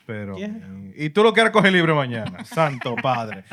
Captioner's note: speaking Spanish